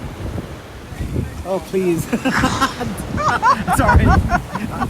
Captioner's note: laughter